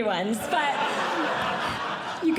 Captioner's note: audience Laughing